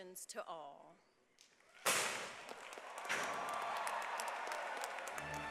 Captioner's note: applause